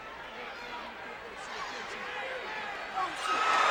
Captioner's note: Cactus Jack speaks faintly; audience cheers